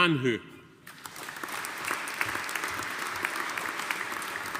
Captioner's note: audience applauding